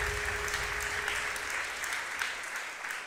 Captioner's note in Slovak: Potlesk